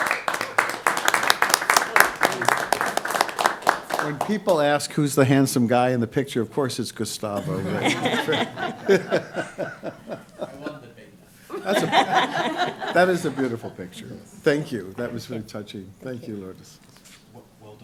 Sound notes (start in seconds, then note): 0.0 applause; 7.4 laughing